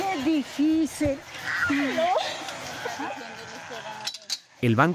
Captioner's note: speaking in foreign language